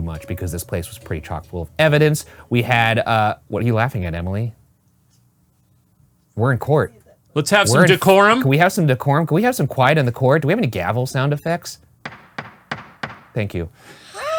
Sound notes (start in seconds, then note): 12.0 gavel pounding